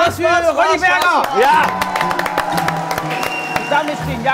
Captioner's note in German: Jubel, Applaus, abfallende Klänge